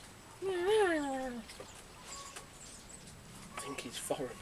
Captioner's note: mimicks inaudible phone speech; whispers